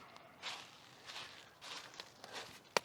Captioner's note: footsteps